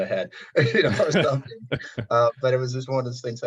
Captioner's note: chuckling